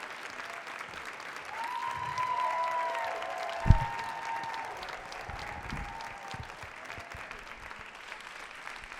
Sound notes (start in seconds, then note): 0.0 crowd cheers and claps loudly continues